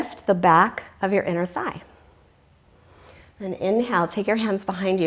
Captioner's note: deep breathing sounds